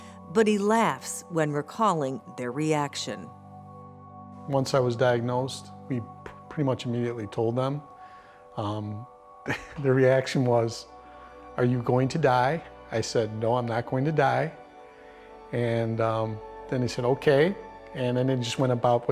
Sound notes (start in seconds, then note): 9.4 chuckles